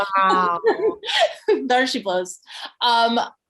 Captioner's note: laughs